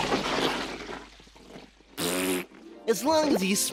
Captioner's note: blows raspberry